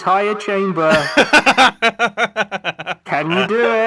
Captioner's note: laughs